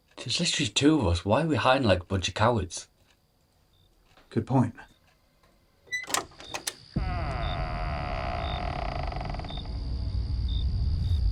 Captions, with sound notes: There's literally two of us. Why are we hiding like a bunch of cowards? - Good point. (door creaks) (suspenseful music)